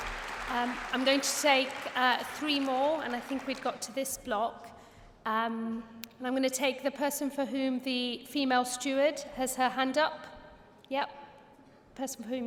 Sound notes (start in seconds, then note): 4.8 applause